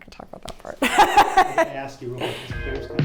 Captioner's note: both laughing; upbeat music